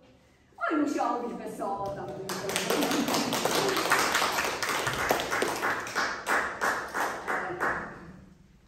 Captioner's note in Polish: oklaski